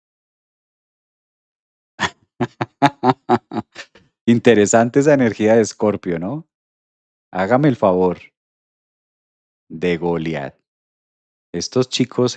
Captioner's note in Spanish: risas